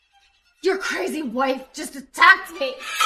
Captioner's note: gasps